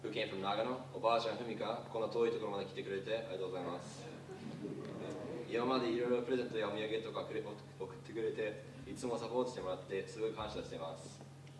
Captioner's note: speaking in Japanese then applause